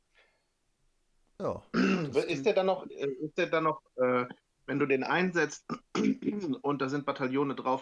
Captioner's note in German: räuspern; husten